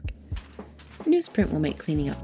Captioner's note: paper crinkles